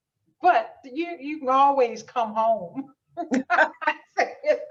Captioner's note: laughs